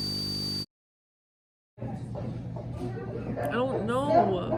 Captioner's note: screeching